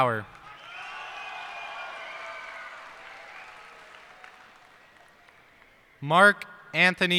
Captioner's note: cheers and applause